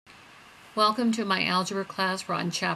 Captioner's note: voiceover